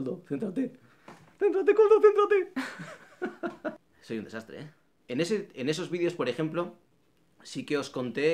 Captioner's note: laughs